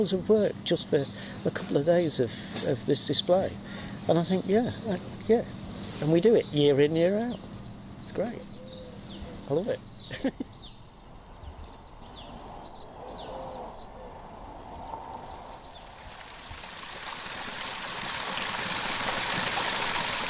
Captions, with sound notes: of work just for a couple of days of this display. And I think...yeah... yeah... And we do it year in, year out. It's great. I love it. [ house sparrows chirruping above the Bull's Head, Youlgrave ] [ waterfall recorded in Ladygrove Woods, Two Dales ]